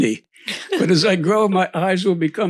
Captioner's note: laughs